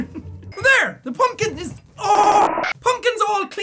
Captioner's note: voice glitching